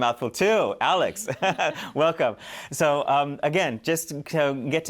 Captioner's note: laughter